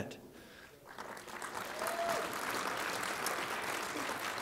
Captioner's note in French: Applaudissements